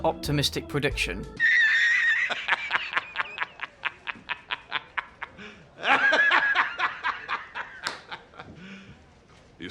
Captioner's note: J Jonah Jameson laugh